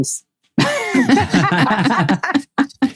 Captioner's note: laughing